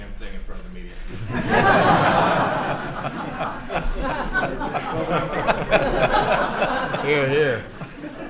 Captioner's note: laughter